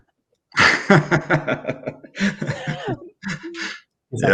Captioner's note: laughter